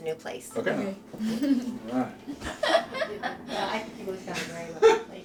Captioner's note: laughing